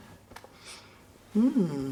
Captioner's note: sniffing